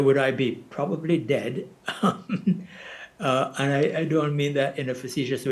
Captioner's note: chuckles